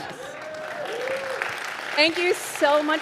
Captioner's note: audience applauding